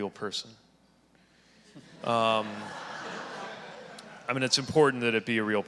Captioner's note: audience laughing